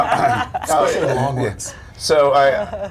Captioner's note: laughter